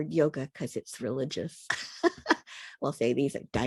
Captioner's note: laughs